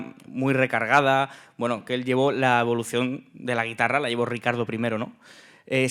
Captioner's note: speaking in Spanish